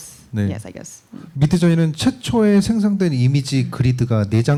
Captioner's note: speaking korean